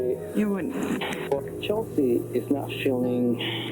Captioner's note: recording playback